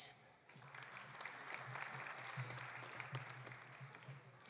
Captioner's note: audience applauding